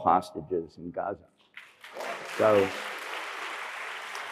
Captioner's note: applause